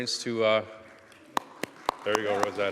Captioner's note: applause